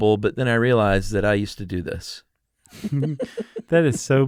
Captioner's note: both laugh